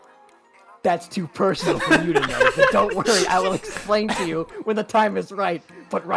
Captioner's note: multiple people laugh